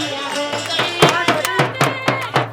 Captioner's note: Aurat March chants